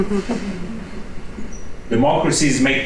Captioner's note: chuckling